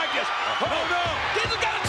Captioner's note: spectators cheering